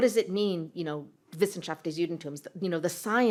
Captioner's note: non-english